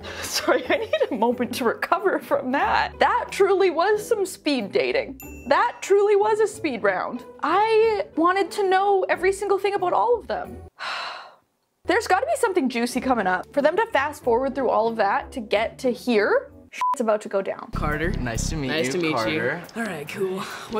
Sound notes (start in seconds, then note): 10.8 sighing; 16.8 beep